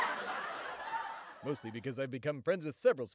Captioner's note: laugh track